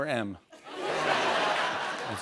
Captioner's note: laughter